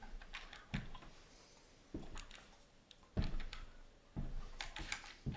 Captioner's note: calculator buttons clicking